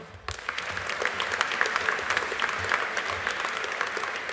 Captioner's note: audience applauding